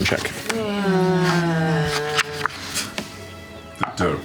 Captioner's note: groaning